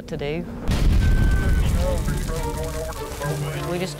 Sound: crackling; emergency radio chatter

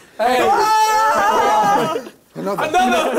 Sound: crowd cheering

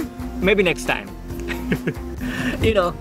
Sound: laugh

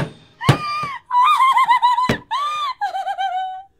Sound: pizza cutter thudding; Lily laughs

